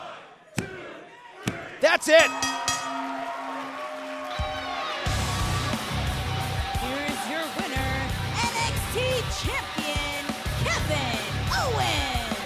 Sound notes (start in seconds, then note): 2.1 bell rings